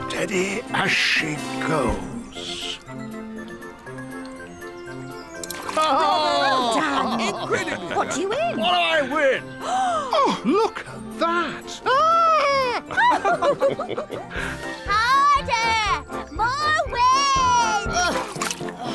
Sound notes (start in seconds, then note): 9.6 gasps; 12.5 all laugh